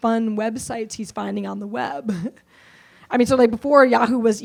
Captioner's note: laughs